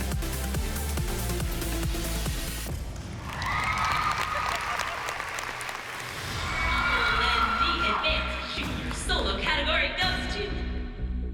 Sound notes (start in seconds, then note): 3.1 cheering; 4.3 giggling